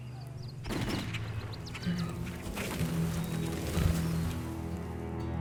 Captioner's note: gunfire pops in the distance